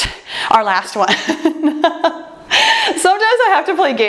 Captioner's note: laughs